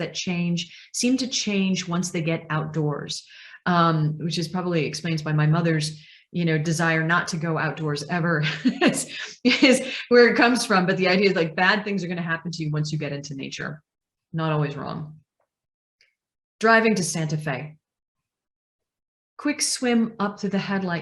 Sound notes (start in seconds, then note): 8.4 laughs